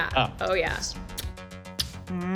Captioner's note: kissing fingertips